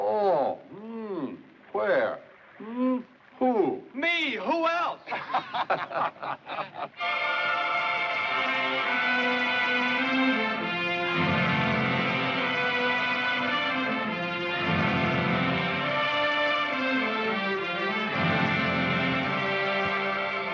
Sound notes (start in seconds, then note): 5.0 men laughing; 7.3 grand orchestral music